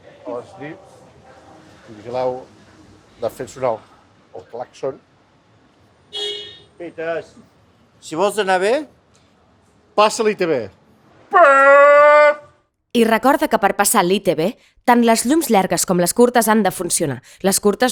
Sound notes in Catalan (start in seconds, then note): 6.1 s'escolta un clàxon de fons